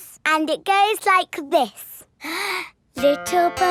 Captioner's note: inhales